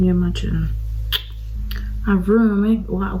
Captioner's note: clicks tongue